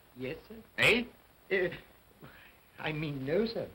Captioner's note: Cratchit stammers